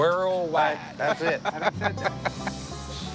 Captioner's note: laughter